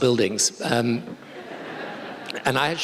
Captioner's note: laughter